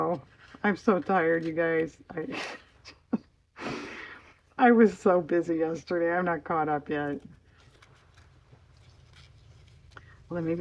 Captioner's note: laughs